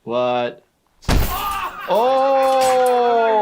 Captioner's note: punches bag